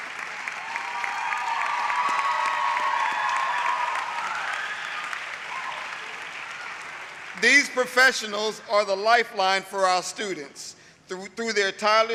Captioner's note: applause